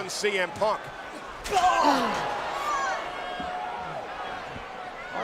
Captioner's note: crowd murmuring